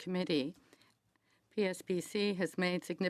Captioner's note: speaking French